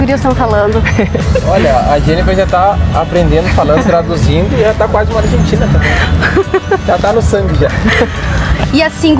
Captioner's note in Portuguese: risos